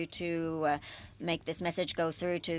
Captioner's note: speaking French